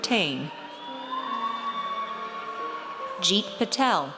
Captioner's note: audience cheers